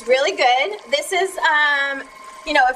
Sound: water boiling

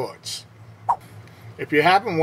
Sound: swipe Sound

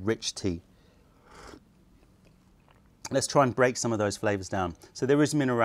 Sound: sips tea

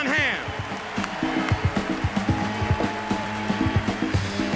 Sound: applause, cheering

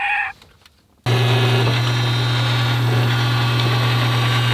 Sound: engine running

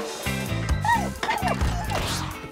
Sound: whimpering

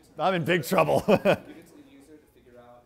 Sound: chuckles

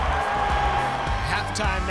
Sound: cheering

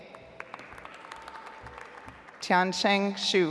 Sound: audience applauds

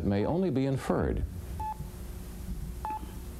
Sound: beeping

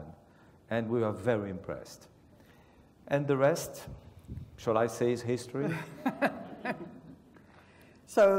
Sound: laugh

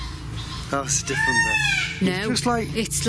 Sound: peacock squawking; peacock screaming

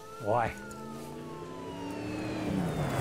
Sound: police sirens

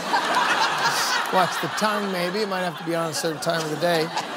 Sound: laughter

